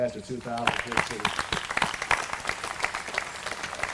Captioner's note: applause